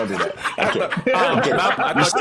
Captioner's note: all laughing